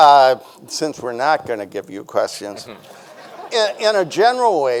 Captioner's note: audience laughing; chuckles